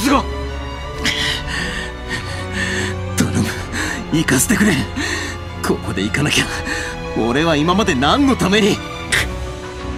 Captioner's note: pant, pant